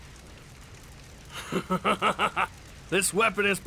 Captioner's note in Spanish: Risas